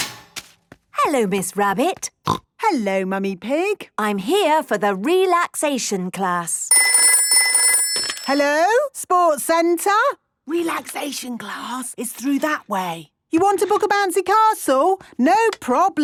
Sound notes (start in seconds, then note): 1.5 snorting; 6.7 phone ringing